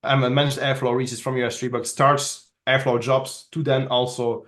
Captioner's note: faintly speaking